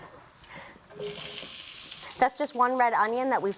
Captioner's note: sizzles